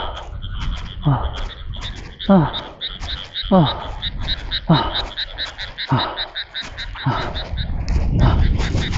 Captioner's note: heavy panting